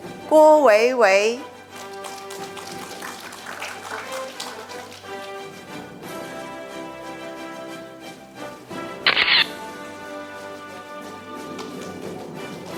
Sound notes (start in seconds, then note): 1.4 audience applauding; 9.1 camera shatters; 9.8 orchestral music